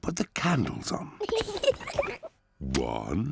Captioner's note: oinks; both laugh